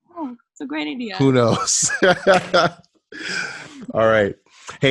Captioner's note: laughs